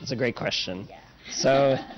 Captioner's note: laughter